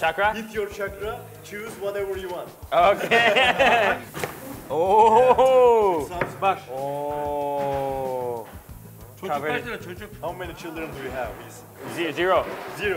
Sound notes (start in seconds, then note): 2.8 laughs; 9.4 speaking foreign language